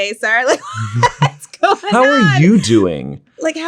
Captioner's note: both laugh